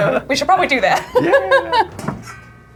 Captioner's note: laughing